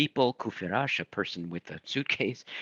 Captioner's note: speaking in foreign language